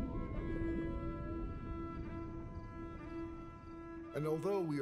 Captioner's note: whale sings